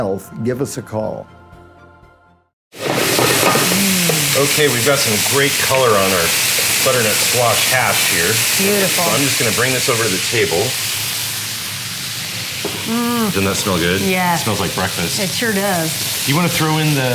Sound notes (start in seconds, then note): 2.8 sizzling